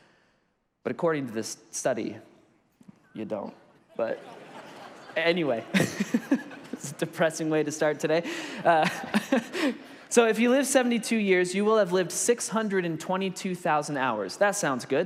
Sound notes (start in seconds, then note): 3.9 congregation laughs; 5.6 laughs; 9.0 laughs